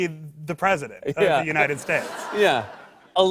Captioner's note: laughter